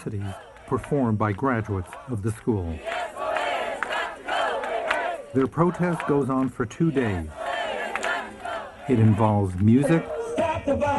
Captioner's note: applause